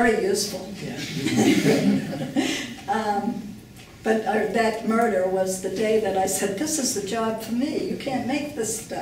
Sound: laughing

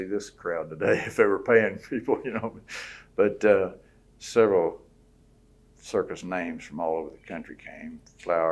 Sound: laughs

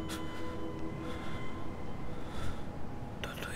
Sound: Shorya gasps

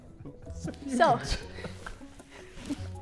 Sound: Sidemen laughing

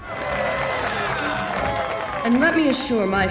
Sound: cheering

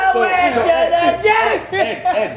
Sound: laugh

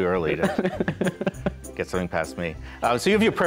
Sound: laughter

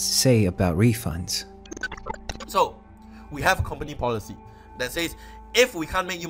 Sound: glitch sound effects

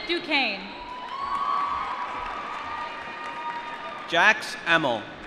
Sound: applause

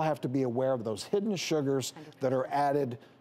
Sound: none

